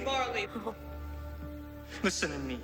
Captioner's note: Marley scoffs